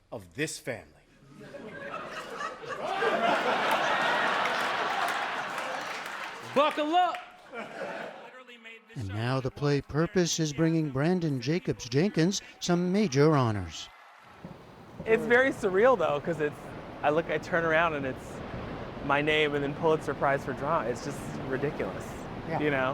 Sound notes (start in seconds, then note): 7.4 laughter